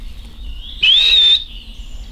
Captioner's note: whistles